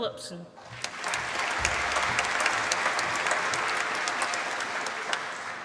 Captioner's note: applause